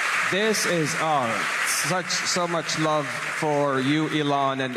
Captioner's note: applause